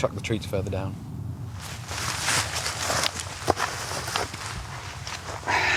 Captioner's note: footsteps; packet rustles; sighs